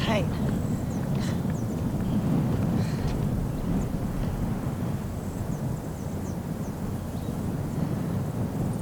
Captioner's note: wind blowing